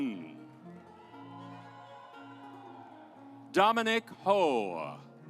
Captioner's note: audience applauds